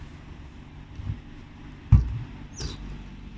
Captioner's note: quiet traffic